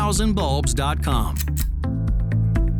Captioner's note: click